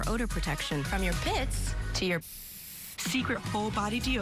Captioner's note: spray noise